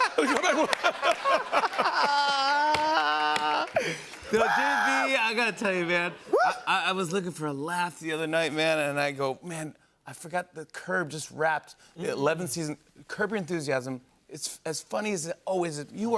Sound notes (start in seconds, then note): 0.0 laughter and applause; 2.5 slapping desk